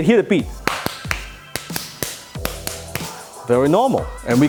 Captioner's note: hands clapping in rhythm